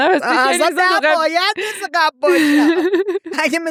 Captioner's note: laughs